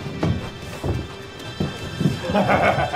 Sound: yelps; laughs

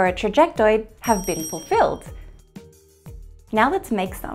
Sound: bell chiming

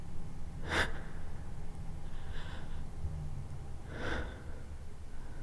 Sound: Iris breathing heavily

